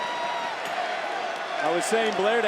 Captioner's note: crowd cheering